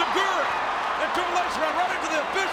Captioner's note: audience cheers